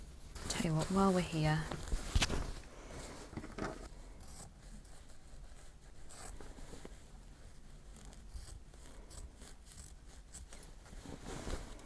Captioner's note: snipping